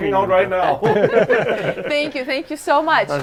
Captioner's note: group laughing